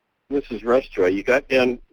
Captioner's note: voiceover